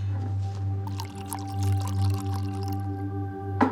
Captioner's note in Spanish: Sonido al verter el tequila